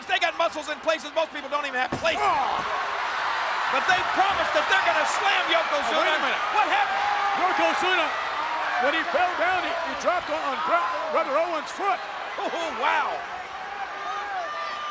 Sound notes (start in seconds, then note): 2.7 audience cheers